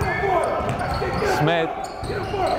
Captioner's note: yelling